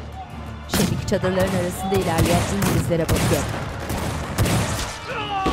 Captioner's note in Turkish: Silah sesleri